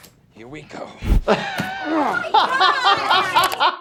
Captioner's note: laughing